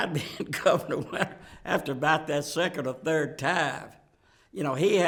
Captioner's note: laughs